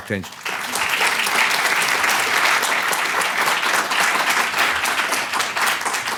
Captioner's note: audience applause